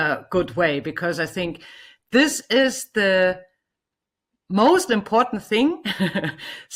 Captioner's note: laughs